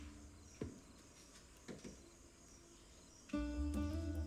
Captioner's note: footsteps